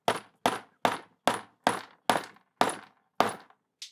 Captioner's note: hammering